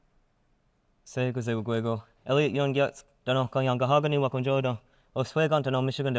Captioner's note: speaking in foreign language